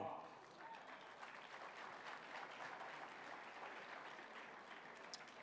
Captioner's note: applause